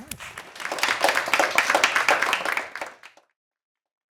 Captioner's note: people clapping